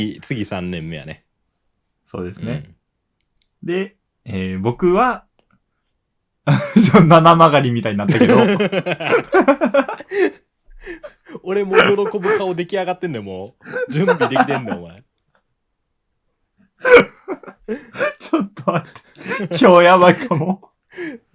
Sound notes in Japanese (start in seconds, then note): 8.0 笑い; 13.4 笑い; 16.8 咳払い; 16.8 笑い